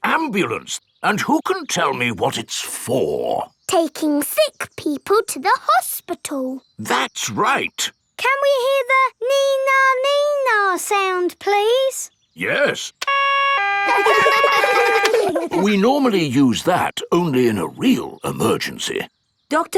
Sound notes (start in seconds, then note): 13.0 siren stops; 13.0 siren wailing; 13.8 kids laugh